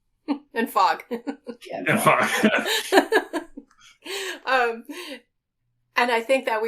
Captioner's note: laughing